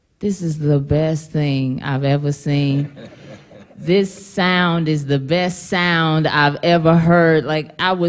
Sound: laughter

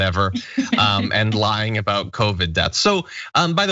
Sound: laugh

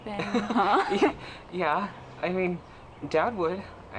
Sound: laughing

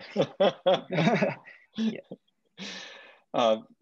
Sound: laughs

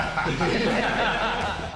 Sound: laughter

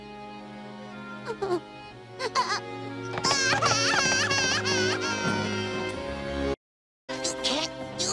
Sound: cries

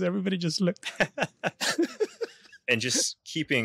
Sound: laughs

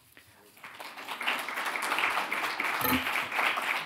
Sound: crowd clapping

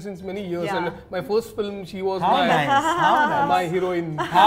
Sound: laughter

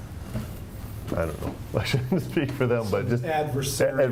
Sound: laughing

